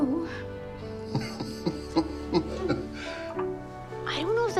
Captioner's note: dad chuckles